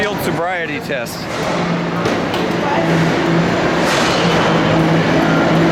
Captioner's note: general construction noise, men talking and shouting